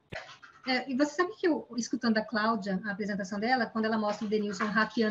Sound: speaking in Portuguese

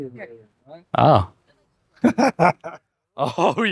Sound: laughs

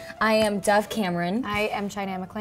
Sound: none

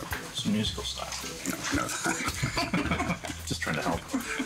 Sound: all laughing

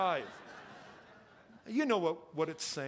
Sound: congregation laughing

